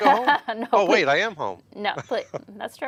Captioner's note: chuckles